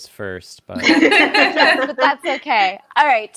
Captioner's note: both laughs